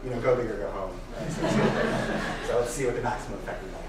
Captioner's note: laughing